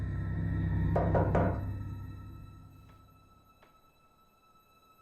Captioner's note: knocking on door; suspenseful music